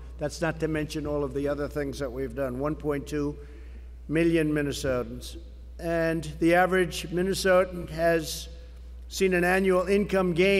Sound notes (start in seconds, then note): none